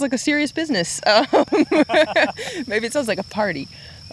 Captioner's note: both laughing